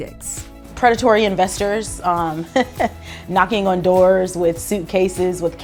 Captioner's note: laughs